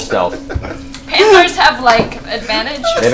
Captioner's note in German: lacht